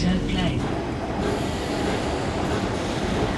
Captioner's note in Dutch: roltrap geluiden